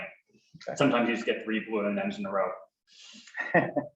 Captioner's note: laughs